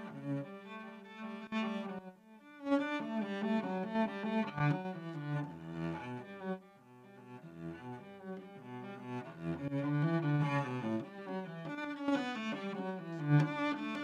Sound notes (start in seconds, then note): none